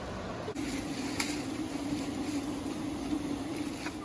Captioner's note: camp stove boiling water